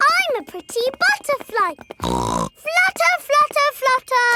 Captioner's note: snorts